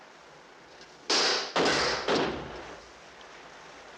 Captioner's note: gunshots